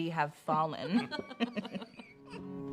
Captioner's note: all laughing; soft guitar music